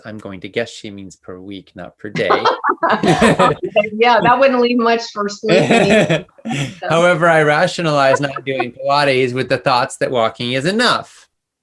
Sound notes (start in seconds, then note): 2.1 laughs; 5.4 laughter drowns the sound